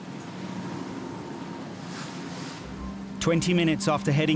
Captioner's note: engine rumbling